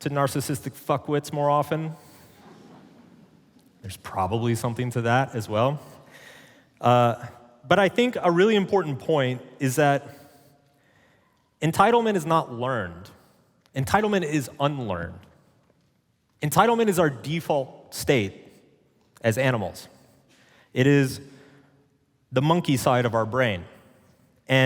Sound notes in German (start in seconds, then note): 2.4 Publikum lacht